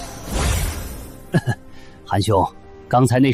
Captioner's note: cough